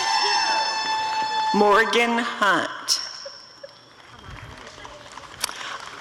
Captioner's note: applause and cheering; applause and cheering